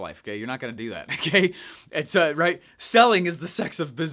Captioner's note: laughs